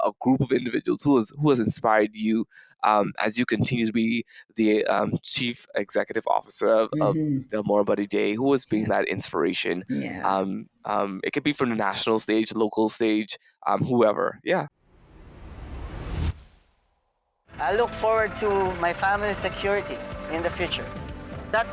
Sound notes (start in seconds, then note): 14.9 logo whooshing